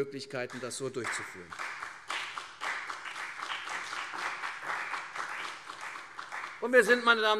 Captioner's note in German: Beifall CDU und BÜNDNIS 90/DIE GRÜNEN